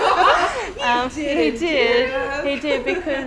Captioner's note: laughter; sound of laughter